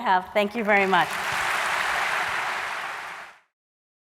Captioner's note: applause